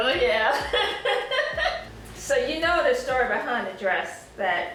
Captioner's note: laughing